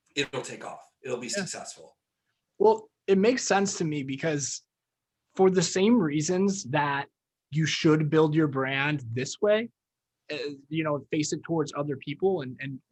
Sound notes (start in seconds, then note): none